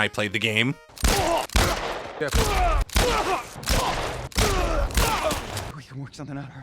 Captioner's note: gunshots and grunts